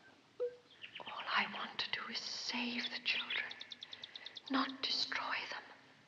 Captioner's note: whispering